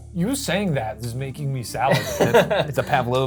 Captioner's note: laughs